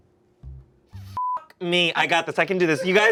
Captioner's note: beep